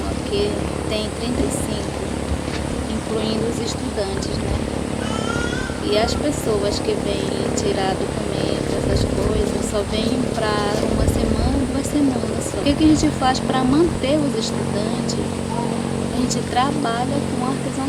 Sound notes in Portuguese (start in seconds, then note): 6.6 motor de barco